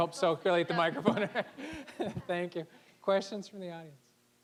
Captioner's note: laughing